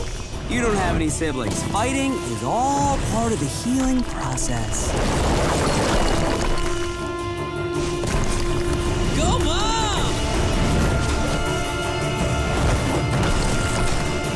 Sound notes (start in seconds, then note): none